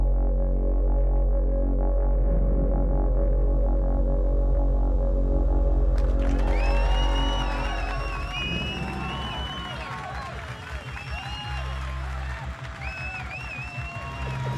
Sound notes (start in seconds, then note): 6.7 crowd cheers; 11.8 ominous music